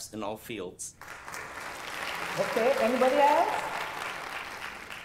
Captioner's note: applause